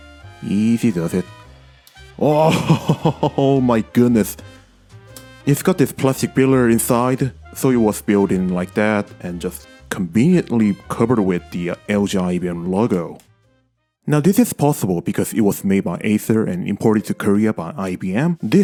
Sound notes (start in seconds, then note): 2.4 laughter